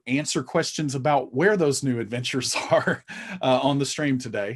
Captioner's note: chuckling